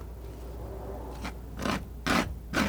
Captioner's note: scratching